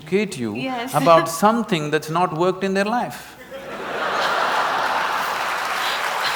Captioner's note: laughter & Applause